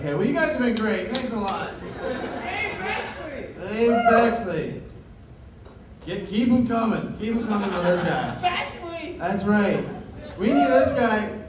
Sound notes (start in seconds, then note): 1.7 laughter